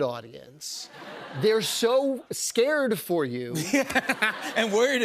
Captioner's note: laughter